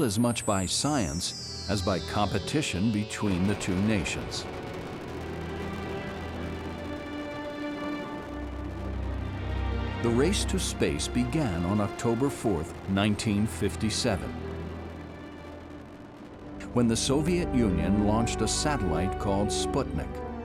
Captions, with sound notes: as much by science as by competition between the two nations. (dramatic music) (rocket propelling) The race to space began on October 4th, 1957, when the Soviet Union launched a satellite called Sputnik;